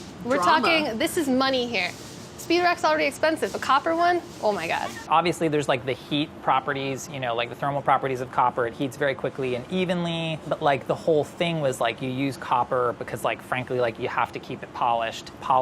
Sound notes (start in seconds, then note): none